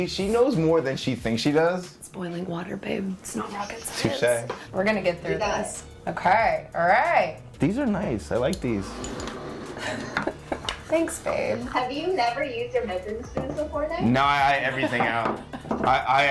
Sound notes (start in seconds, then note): 9.7 laughs